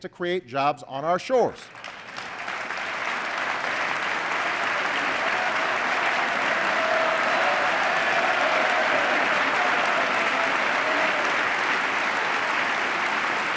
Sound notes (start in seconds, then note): 1.6 applause